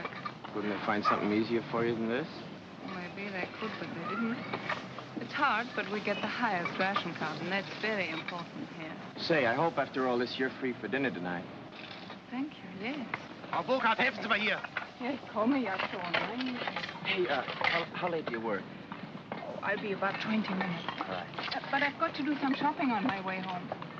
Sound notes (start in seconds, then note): 13.2 speaking angrily in German; 14.7 speaking in German